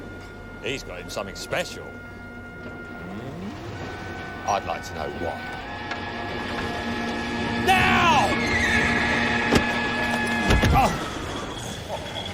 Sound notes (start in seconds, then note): 8.3 horse neighs